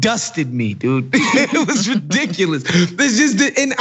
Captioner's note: laugh